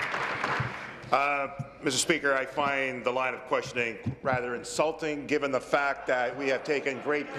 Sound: applause

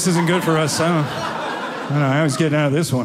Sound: audience laughing

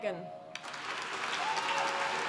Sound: applause

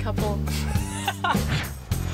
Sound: laughs; soft music

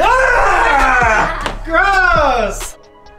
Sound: screams

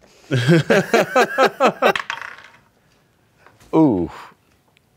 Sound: all laughing

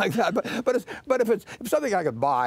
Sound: laughter

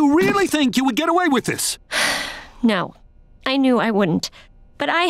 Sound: sighing

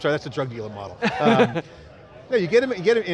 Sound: laughter

